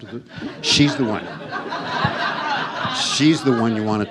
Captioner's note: audience laughs